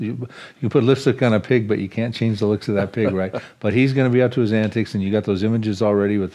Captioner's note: chuckles